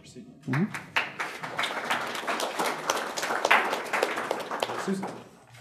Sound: audience applauding

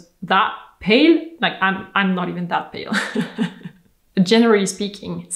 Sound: laughs

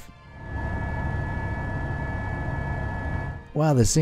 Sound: helicopter humming

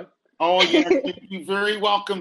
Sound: laughing

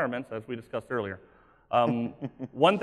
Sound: laughing

